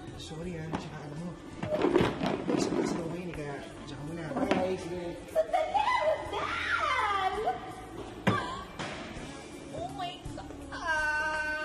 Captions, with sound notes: I'm sorry. And you know what? [chair screeches] I have classes today so I'll go ahead. Bye. I'm off. [screams] Wait, Rodel! Oh, my god.